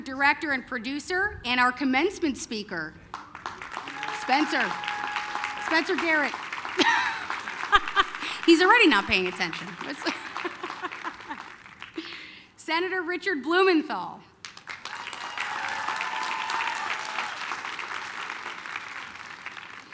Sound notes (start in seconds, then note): 14.4 applause, cheering